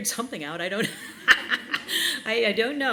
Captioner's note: laughing